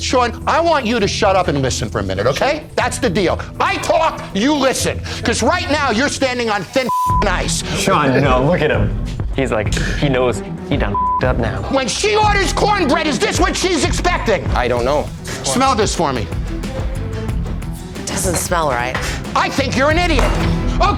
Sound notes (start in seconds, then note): 6.8 beep; 10.9 beep